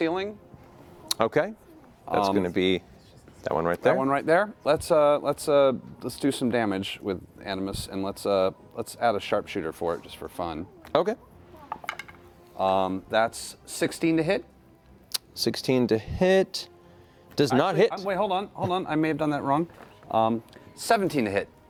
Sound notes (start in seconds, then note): none